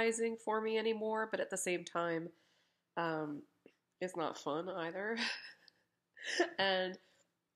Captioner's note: laughs